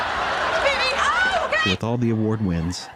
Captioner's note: laughter